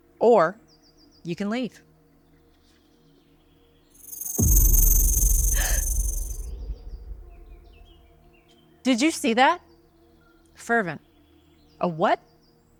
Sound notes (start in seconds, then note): 4.0 snake rattles; 4.3 snake hisses; 5.8 Tiffany gasps